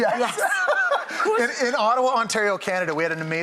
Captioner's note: laughing